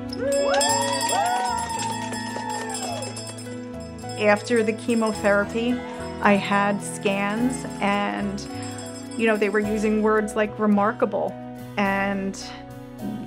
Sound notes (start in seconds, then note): 0.1 bell ringing; 1.6 cheering